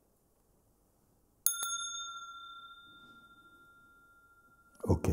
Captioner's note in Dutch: rinkelt bel